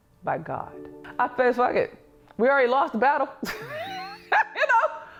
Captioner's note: laughs